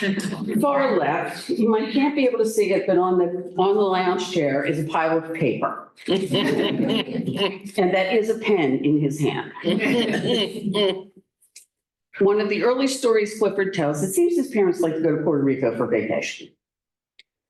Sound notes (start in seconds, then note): 6.0 laughter; 9.5 laughter